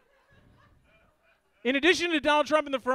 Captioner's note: audience laughs